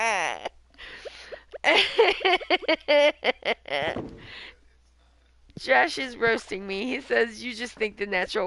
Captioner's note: more laughing